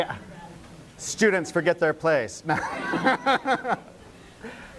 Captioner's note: laughing